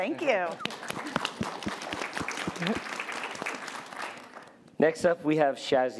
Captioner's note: applause